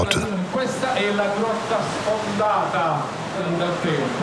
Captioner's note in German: Tourguide spricht italienisch